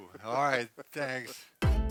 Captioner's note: laughs